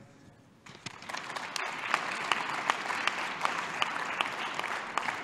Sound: applause

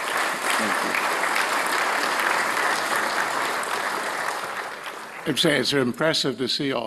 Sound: applause

